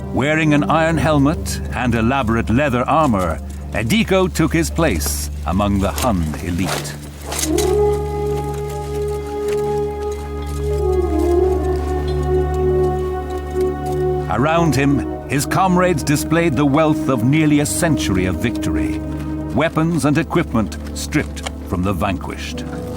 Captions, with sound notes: Wearing an iron helmet and elaborate leather armor, Edeko took his place among the Hun elite. (horn blowing) Around him, his comrades displayed the wealth of nearly a century of victory. Weapons and equipment stripped from the vanquished.